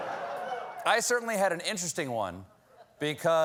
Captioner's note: laughter